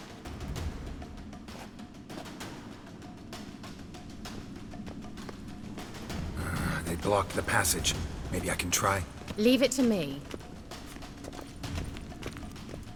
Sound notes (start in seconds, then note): 6.4 annoyed sigh